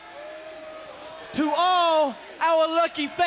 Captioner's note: crowd chatter